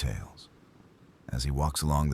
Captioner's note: wind Blowing